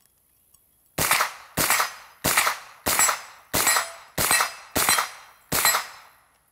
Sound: gun cocking; gun firing and hitting plate repeatedly

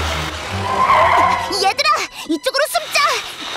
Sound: tires screeching

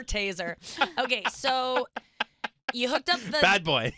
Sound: laughing

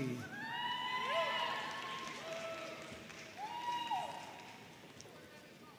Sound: audience cheering and applauding

